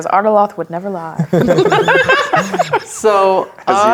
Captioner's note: players laughing